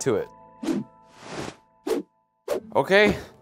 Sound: clothes whooshing

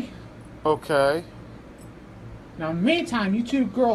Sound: none

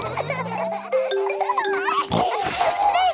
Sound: all laughing; giggles, snorts

